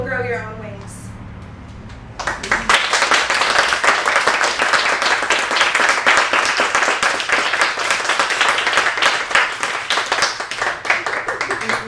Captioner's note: applause